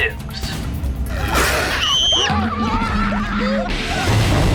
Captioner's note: screams